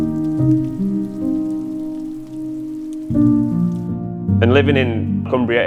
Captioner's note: light rain pattering